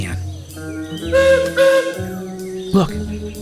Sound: two blasts from a steam whistle

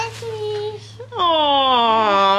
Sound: speaking gibberish

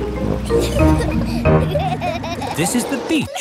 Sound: children giggling

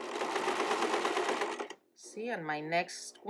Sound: sewing machine clattering

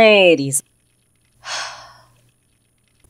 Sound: Balalaika sighs

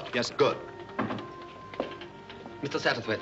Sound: knock at door

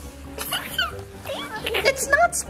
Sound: laughing

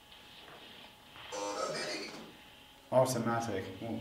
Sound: ovilus voice AUTOMATIC

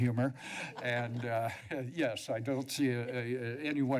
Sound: chuckles; laughter

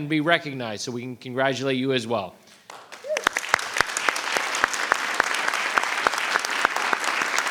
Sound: applause

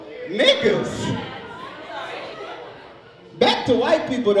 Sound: overlapping chattering

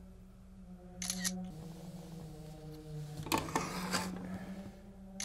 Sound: camera shutter clicking

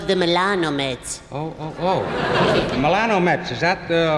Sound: audience laughs

